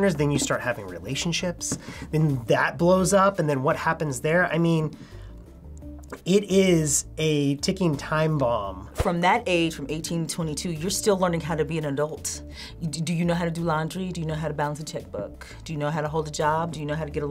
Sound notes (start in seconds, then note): none